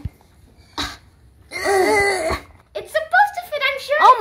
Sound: grunting noises

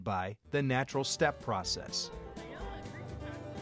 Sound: crowd sounds, music

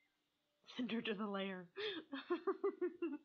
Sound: laughing

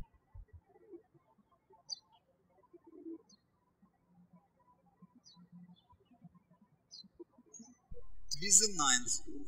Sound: birds chirping

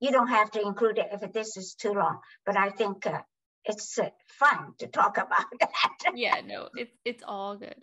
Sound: laughs

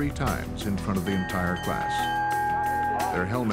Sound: bell chimes three times

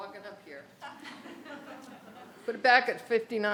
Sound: audience laughs

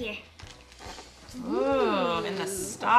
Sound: exclaiming

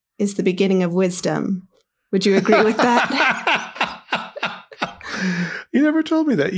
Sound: laughing

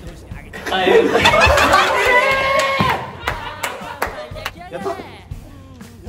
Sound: laughs

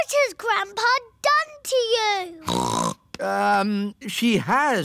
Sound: snorts

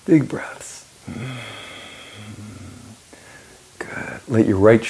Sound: groans

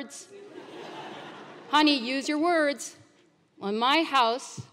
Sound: laugh

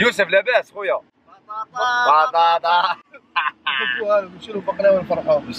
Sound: wobbling

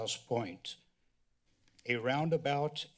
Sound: pause

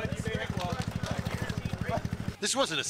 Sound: motor rumbling

